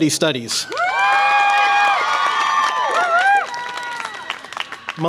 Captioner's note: audience applause and cheer